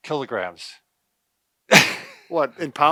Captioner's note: laughs